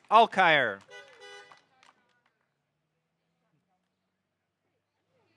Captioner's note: car horn honking